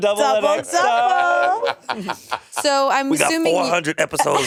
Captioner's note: Monét laughing